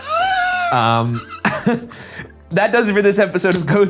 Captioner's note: laughing